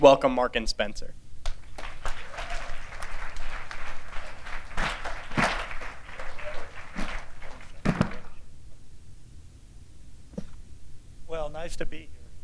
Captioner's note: applause